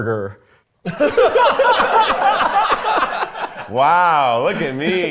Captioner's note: everyone laughs